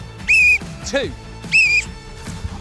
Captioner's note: whistle